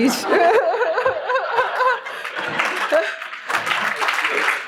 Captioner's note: laughing